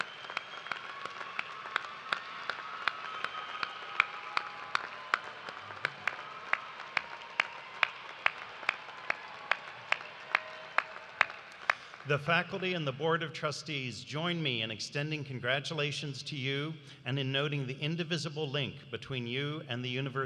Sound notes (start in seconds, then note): 2.3 cheers and applause